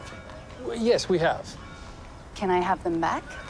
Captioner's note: none